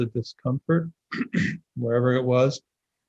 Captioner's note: clears throat